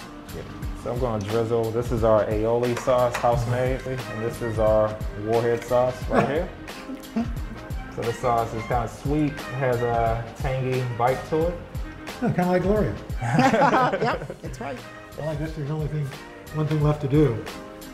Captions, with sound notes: I'm going to drizzle, this is our aioli sauce. House made. This is our warhead sauce right here. This sauce is kind of sweet. Has a tangy bite to it. - Kind of like Gloria. (laughter) - Yep! That's right. - One thing left to do.